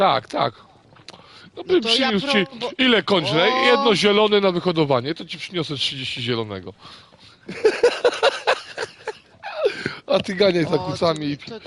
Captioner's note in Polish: śmiech